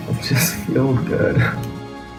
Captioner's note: laughs